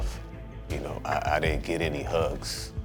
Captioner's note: none